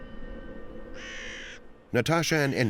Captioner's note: crow caws